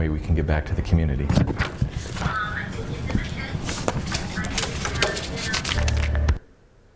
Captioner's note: Chrome books being put on desk